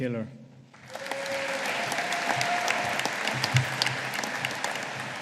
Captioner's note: audience applauding